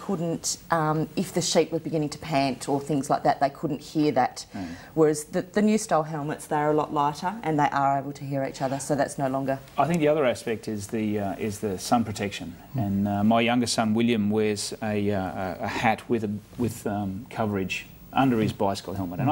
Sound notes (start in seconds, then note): none